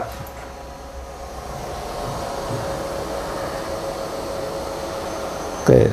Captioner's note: printer machine noise